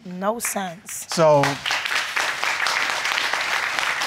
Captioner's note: audience applauding